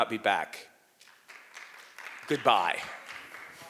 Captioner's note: audience members applauding